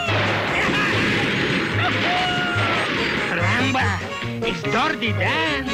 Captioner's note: laughs; guns banging